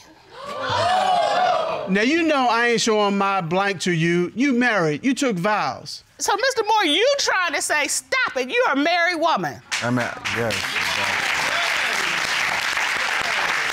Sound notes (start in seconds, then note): 0.3 audience gasps; 9.8 audience cheering, applauding